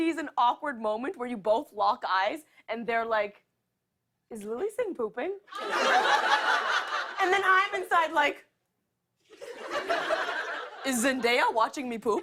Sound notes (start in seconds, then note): 5.5 laughter